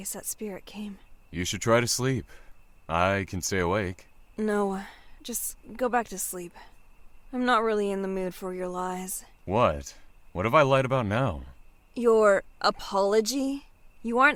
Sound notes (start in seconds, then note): none